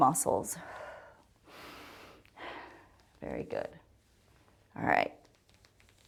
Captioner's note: inhales and exhales